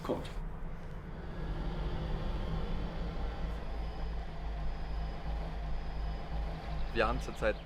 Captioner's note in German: Autofahrgeräusche